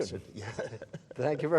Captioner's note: chuckles